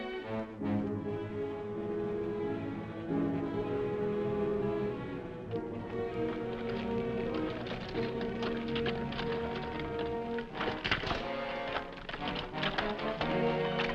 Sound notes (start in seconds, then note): 5.3 horse hooves clopping; 11.0 dramatic music